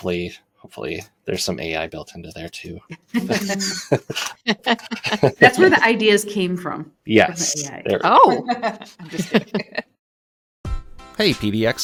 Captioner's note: laughter